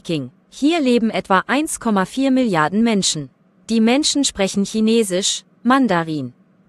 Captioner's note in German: Mandarin